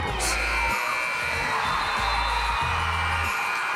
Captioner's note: buzzer sounding